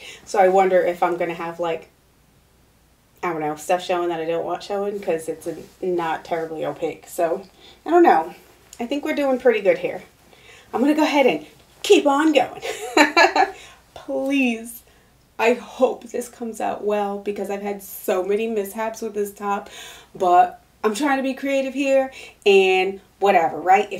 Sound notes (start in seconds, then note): 12.6 laughing